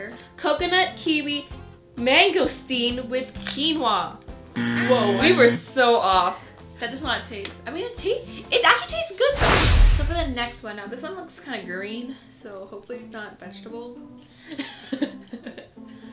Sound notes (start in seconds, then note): 4.5 buzzer; 13.8 laughs